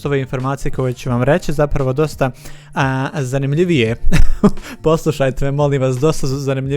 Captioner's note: laughter